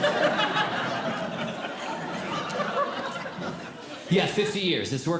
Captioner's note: audience Laughing